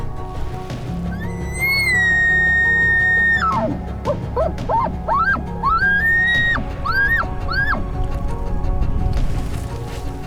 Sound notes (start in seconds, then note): 1.2 caller bugles